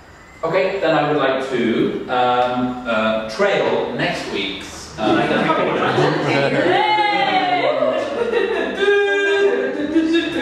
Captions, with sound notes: Okay, then I would like to trail next week's -- (group talking and laughing)